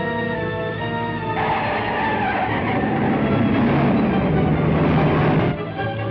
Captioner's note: tires screeching